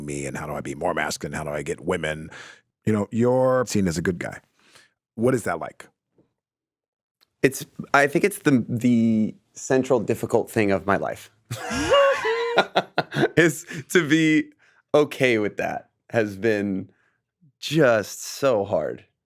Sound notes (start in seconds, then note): 11.5 laugh